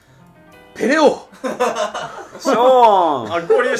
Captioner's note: laughing